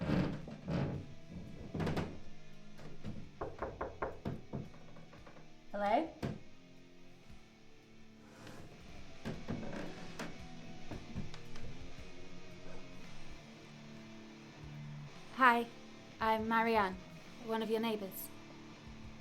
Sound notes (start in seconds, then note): 0.0 floor creaking; 2.7 door tapping; 6.9 faint rock music; 18.3 rock music continues